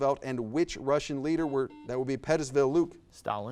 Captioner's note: buzzer buzzes